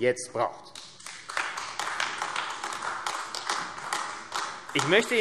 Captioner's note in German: Beifall AfD